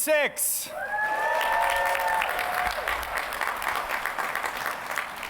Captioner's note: cheers and applause